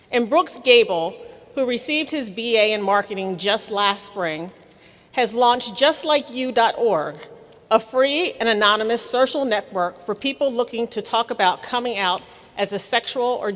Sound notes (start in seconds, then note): none